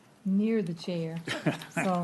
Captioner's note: laughter